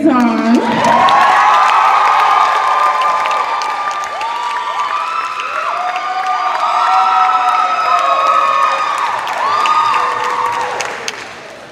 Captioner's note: cheers and applause